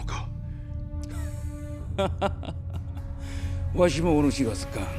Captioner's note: Wakisaka’s derisive laughter